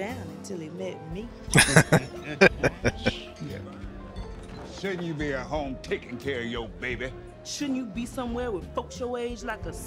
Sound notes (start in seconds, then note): 1.5 laughing